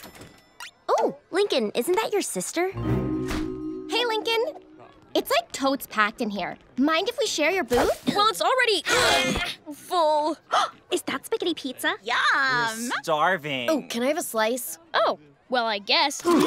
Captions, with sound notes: Oh, Lincoln, isn't that your sister? Hey, Lincoln. It's like totes packed in here. Mind if we share your booth? Well, it's already... full. [gasping] Is that spaghetti pizza? - Yum. - We're starving. Ooh, can I have a slice? Oh. Well, I guess.